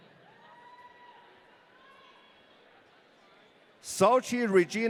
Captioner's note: audience cheering